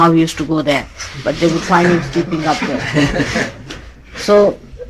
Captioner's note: laughs